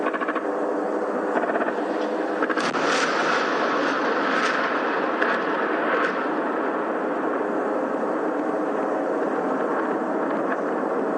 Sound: guns firing

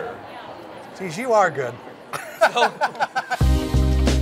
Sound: laughs

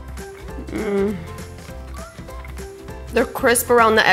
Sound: moans

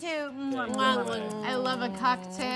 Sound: make mwah noises

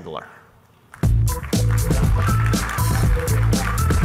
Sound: applause; funky music

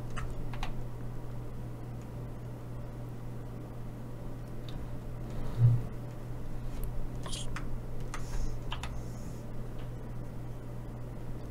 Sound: typing

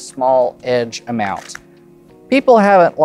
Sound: cards riffling

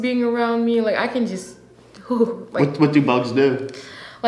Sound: shudders

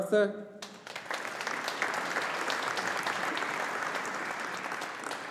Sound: audience applauding

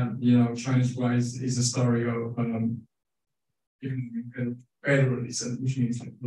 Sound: speaking faintly

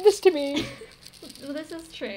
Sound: laugh

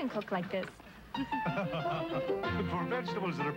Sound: Clarence chuckles

